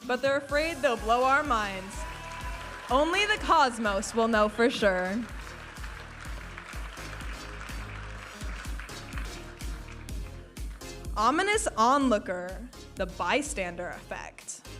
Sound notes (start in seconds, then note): 5.7 audience applauding